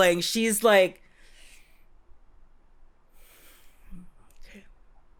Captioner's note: silence